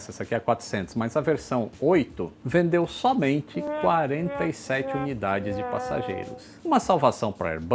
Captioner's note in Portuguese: som wah wah wah wah ao fundo